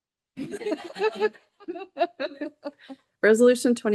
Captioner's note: people laughing